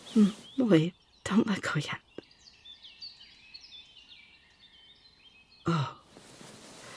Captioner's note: rustling, listener pulling back